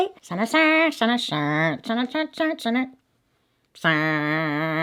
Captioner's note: humming